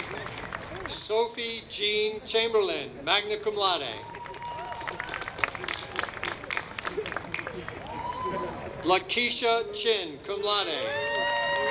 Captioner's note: applause